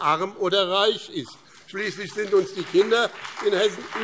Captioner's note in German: Vereinzelter Beifall BÜNDNIS 90/DIE GRÜNEN und CDU